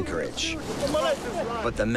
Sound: speaking Tahitian

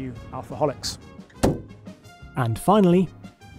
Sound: boot slams shut

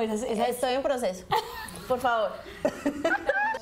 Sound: Risas

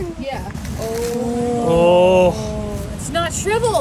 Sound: everyone ooing

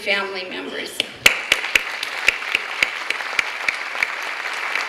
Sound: clapping

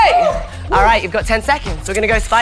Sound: wooing

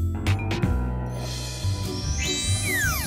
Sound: none

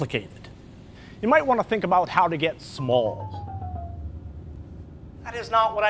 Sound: shrinking sound effect

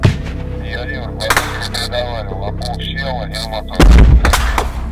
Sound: radio exchange

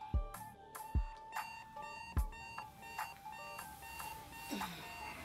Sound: alarm beeping

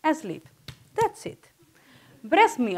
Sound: hands clapping

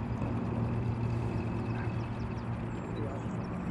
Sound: birds chirping; boat engine idling

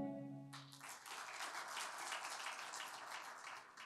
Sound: applause

